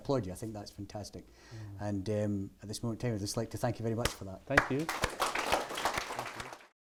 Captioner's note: applause